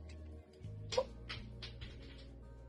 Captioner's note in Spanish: sonido: un tapón golpeando el suelo